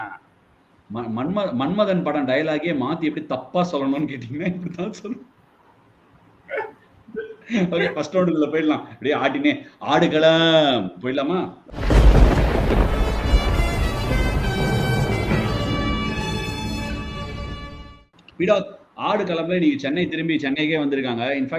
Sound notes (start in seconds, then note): 5.5 laughs